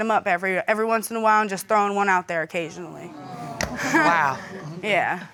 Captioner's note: chuckles